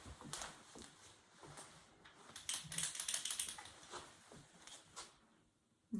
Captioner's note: shaking pen